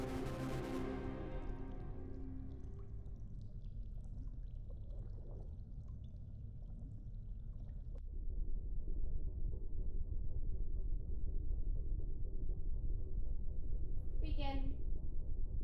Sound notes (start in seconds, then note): 2.3 water gurgling